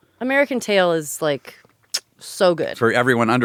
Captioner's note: none